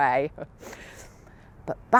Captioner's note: chuckles